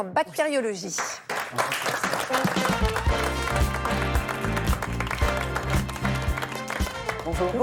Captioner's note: applause